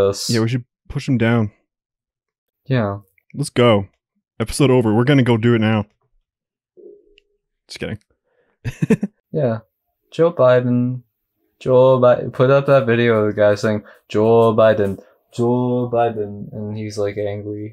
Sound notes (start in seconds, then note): 8.6 chuckles